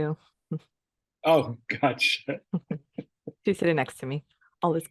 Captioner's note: laughs